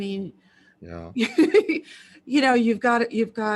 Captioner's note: laughs